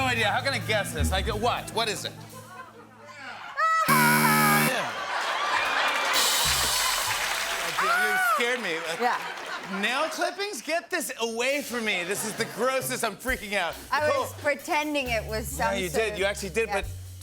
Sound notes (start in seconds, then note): 3.8 buzzer; 4.6 laughter and applause